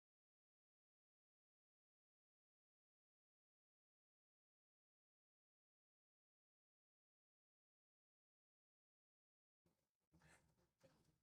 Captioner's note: silence